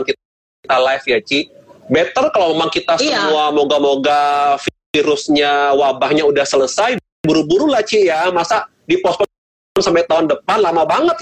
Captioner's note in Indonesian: Tertawa